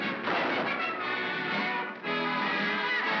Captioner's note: big bang; triumphant music & laughter